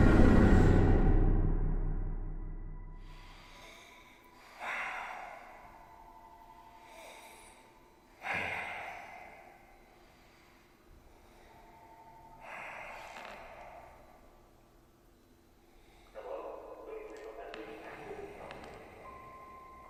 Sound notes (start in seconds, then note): 3.0 Young Wanderer breathing while the phone is ringing